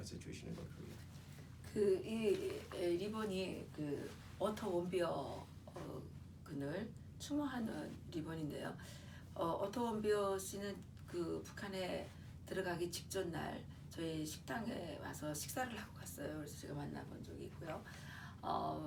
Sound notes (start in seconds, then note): 6.9 speaking korean